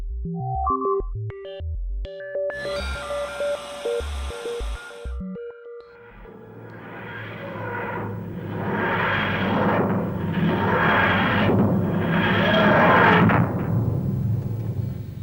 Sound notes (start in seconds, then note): 5.9 TARDIS materializing